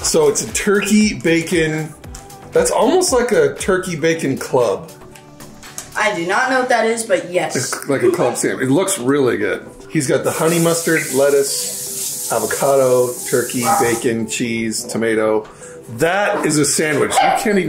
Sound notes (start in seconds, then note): none